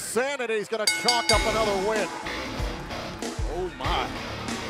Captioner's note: bell ringing